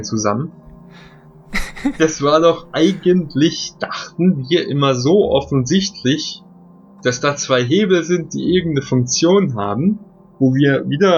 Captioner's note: giggles